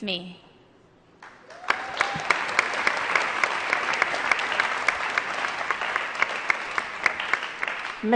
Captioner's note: applause